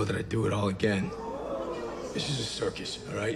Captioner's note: crowd gasps